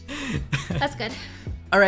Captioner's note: laughing